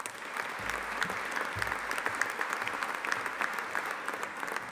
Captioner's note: audience applauding